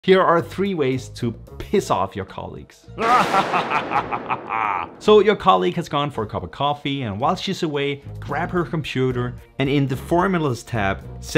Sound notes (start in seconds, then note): 3.0 evil laugh